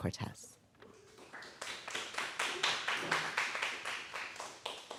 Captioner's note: audience applauding